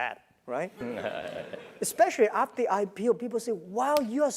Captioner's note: laugh